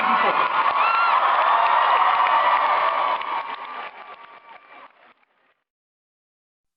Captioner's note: cheers